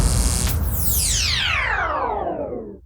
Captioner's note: logo swooshes